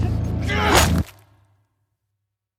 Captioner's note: blow lands